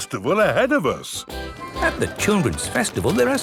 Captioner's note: festival buzz and music